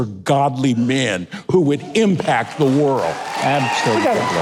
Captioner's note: crowd applauds